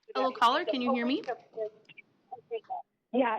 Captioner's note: overlapping chatter